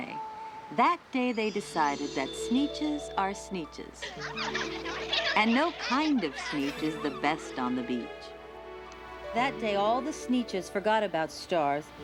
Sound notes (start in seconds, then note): 4.0 all laughing